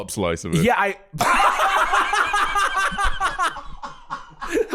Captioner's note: both laughing